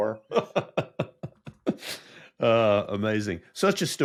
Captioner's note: laughs